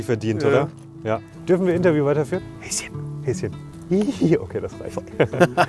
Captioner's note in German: leise